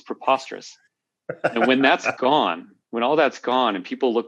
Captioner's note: laughter